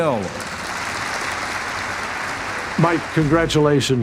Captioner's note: audience applauding